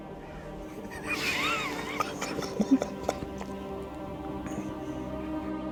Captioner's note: Russell and Hanee chuckling